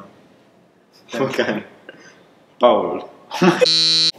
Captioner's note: laughs